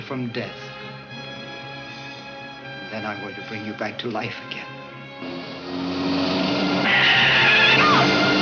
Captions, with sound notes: Then I'm going to bring you back to life again. (car tires screech)